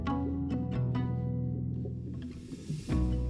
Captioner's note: water running